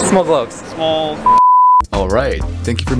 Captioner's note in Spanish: bip